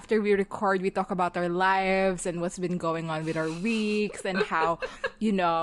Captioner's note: laughing